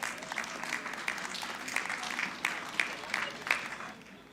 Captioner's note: audience clapping